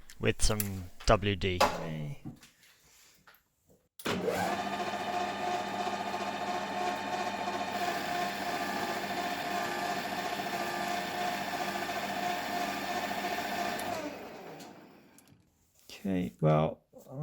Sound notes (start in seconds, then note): 4.1 lathe noise